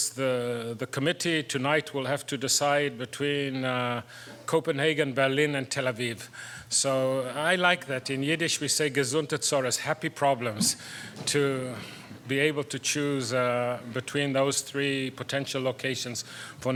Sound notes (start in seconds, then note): 8.9 foreign language spoken